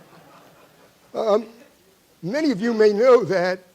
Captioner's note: laughter